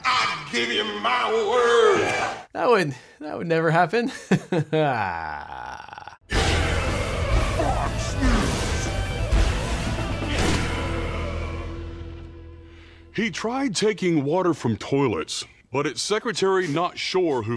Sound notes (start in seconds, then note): 4.1 chuckling